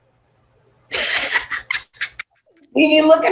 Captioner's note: laughs